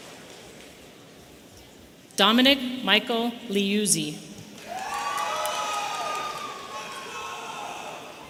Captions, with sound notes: Dominic Michael Leuzze. (audience cheering)